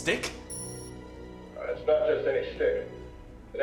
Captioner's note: beep